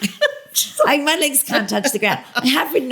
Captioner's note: laughter